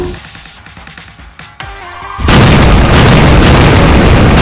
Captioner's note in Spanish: Explosión masiva